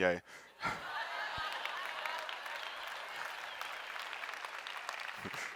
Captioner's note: audience laughing and applauding